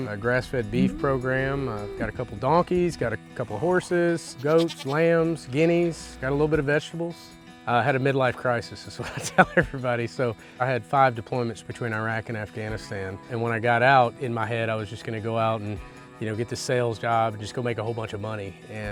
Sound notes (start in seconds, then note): 0.7 cow mooing; 4.3 goat bleating; 9.0 chuckling